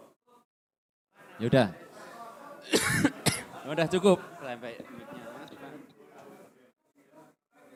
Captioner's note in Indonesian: tertawa